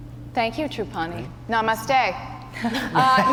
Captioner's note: laughter